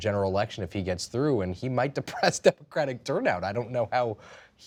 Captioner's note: laughs